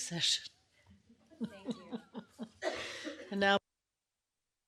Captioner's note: laughing